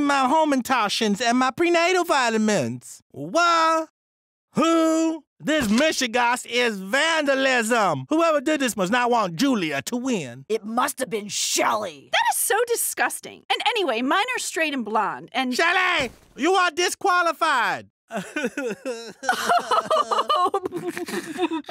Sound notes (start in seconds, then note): 18.1 Shelly sobbing loudly; 18.1 Ms. Klitnick sobbing